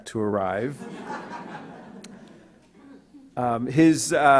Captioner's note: audience laughs